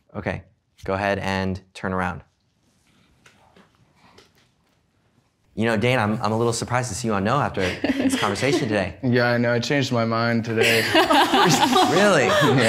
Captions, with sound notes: Okay, go ahead and turn around. You know Dane, I'm a little surprised to see you on no after this conversation today. - Yeah, I know I changed my mind today. (participants laughing) - Really?